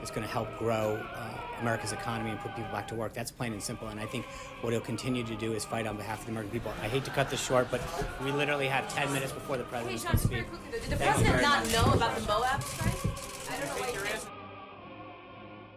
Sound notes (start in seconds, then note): 6.4 raucous laugh track